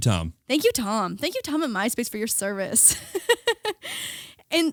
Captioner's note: laughing